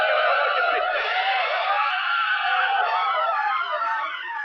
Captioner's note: men shouting